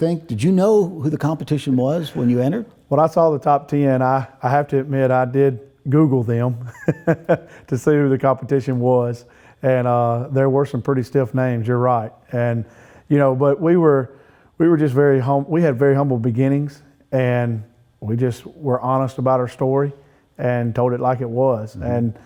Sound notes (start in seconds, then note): 6.6 laughing